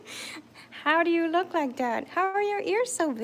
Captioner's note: laughing